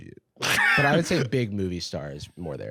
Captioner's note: laughs